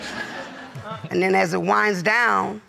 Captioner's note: audience laughing